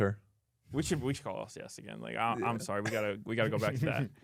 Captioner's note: laughs